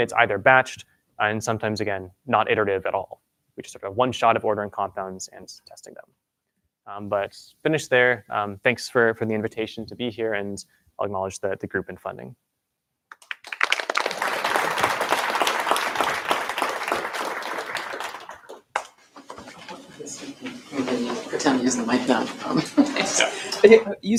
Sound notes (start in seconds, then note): 13.1 applause